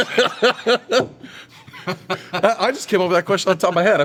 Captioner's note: laugh